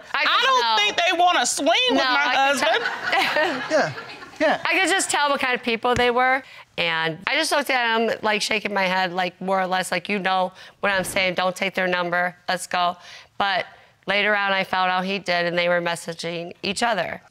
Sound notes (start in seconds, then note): 2.4 laughs